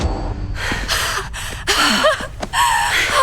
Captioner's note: out of breath; laughs incredulously